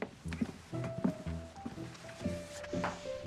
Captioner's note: footsteps